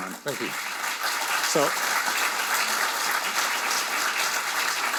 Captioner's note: audience applauding